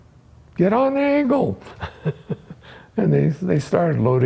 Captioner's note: laughs